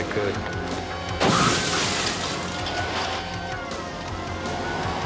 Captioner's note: crashing